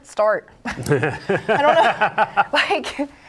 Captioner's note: laughing